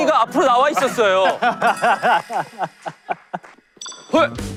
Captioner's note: claps at his illogical claim